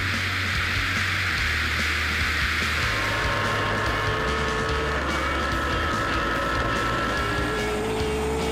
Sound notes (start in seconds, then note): 3.2 plane engine roaring